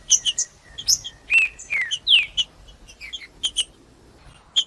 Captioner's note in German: trinca ferro cantando